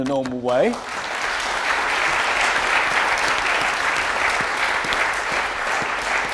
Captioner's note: audience applause